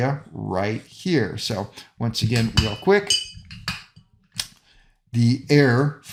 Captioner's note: metal clanking